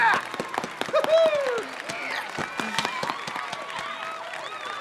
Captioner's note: audience applauding